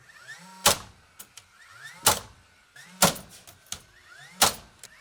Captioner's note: nail gun popping